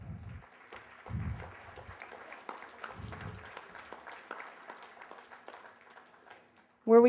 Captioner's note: applause